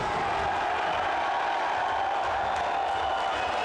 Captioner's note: crowd cheers